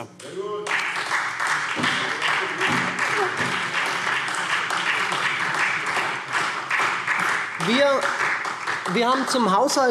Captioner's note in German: Beifall SPD